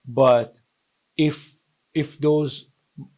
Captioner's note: none